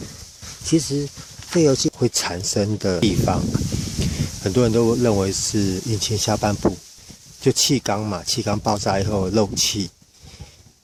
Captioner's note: blowing